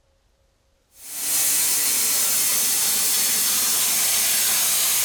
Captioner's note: saw whirring